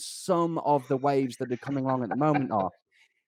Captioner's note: laughs